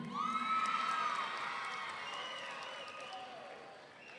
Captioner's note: audience cheering